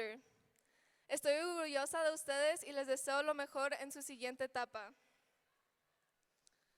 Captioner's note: speaking in foreign language